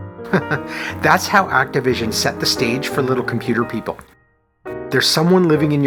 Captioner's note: chuckles